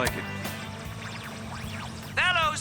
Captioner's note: radio static